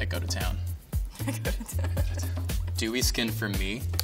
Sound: laughs

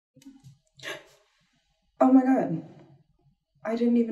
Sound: gasp

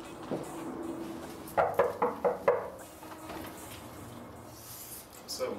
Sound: knocking on door

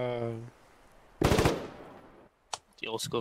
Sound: ratatatata

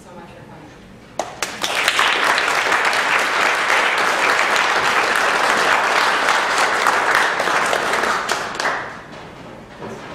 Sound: applause

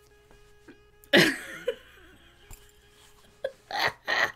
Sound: laughs

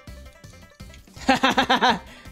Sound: laughs

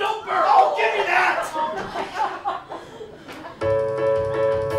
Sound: laughter

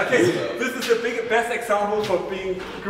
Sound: laughter

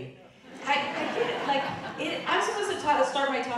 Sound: audience laughing

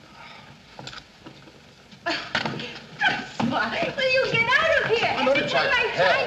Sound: laughingly

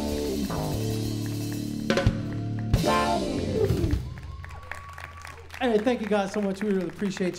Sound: applause

